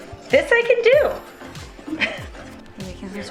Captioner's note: chuckling lightly